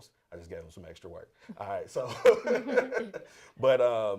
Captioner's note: laughter